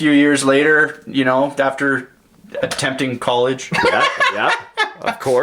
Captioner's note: laughs